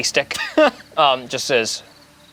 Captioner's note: laughs